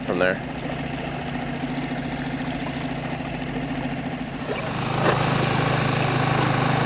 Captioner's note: engine rumbling; water rushing